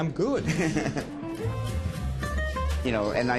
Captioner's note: laughs